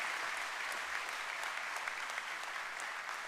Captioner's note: applause